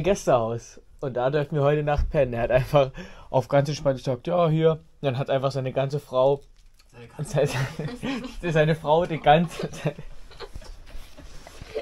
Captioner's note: laugh